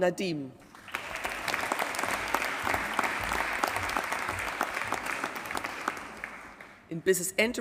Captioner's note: applause